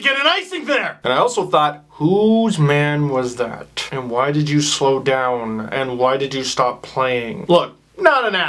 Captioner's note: talking through teeth